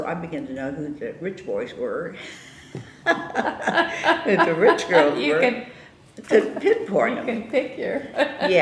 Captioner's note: laughter; laughs